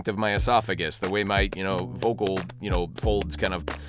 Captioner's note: claps